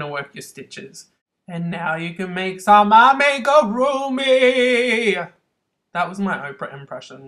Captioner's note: Oprah voice